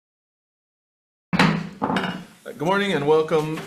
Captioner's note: gavel bangs